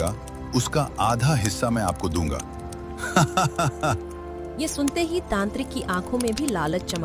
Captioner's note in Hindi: हंसी